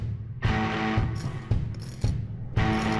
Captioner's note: metallic scraping